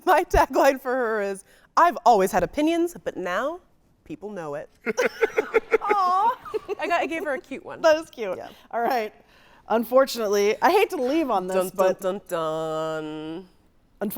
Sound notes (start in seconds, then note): 4.8 guy laughing